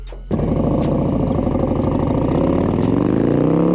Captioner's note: engine roaring